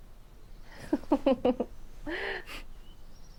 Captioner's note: Stef giggles